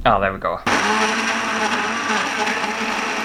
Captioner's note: blending Motor Sounds